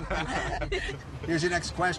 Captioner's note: laughing